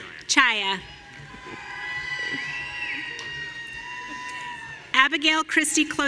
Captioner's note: audience cheering